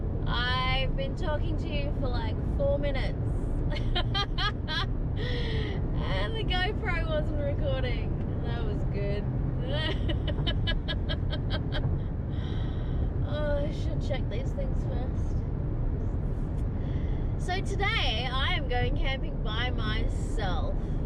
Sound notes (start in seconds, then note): 3.7 laughs; 9.8 laughs at self; 12.3 sighs